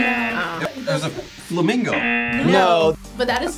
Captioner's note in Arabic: يرن الجرس; يرن الجرس